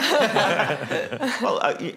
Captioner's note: laughing